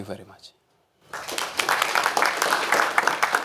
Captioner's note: applause